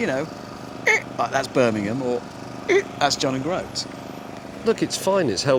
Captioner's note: squeak